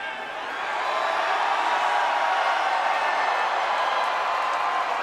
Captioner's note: audience cheers